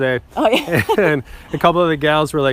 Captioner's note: laughs